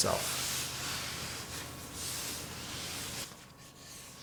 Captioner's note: dough scrapes